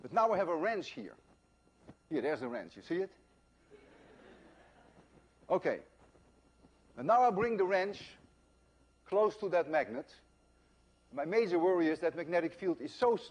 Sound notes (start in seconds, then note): 3.7 laughter